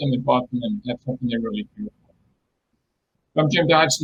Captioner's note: distortion muffles speaker